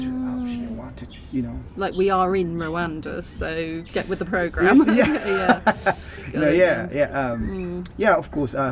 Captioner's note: laughing